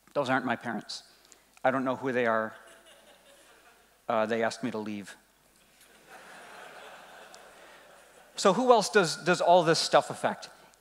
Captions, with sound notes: Those aren't my parents. I don't know who they are. They asked me to leave. (laughing) So who else does all this stuff effect?